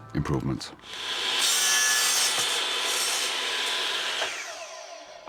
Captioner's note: saw running